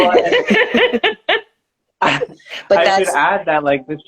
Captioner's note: laughing